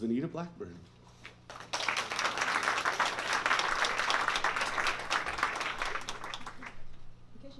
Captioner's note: applause